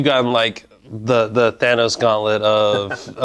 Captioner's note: laughing